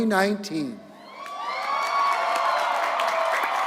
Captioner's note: applause